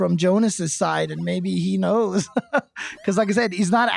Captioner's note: laughs